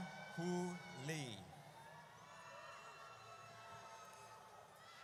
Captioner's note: audience cheers